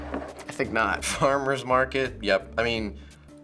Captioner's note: chuckles